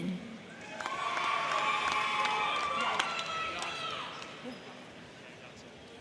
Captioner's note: crowd cheering; crowd clapping